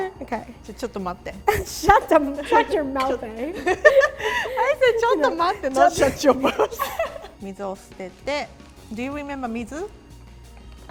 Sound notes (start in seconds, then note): 3.5 both giggle; 5.1 speaks in foreign language; 9.6 speaks in foreign language